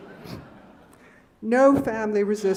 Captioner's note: laughing